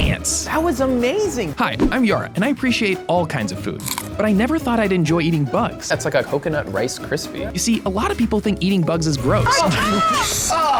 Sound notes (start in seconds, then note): 3.8 food crunches; 9.4 contestants yells in disgust